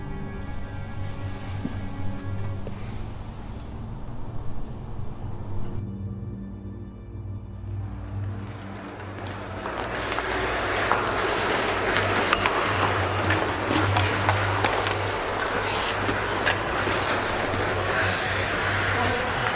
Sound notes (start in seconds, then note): 8.1 people cheering